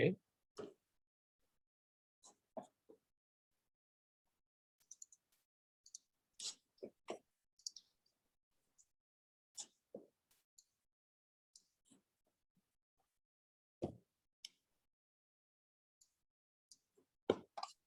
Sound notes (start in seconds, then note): 4.8 mouse clicking